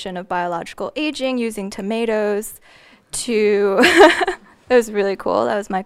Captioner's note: laughing